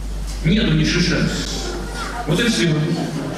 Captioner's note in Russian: Шум в зале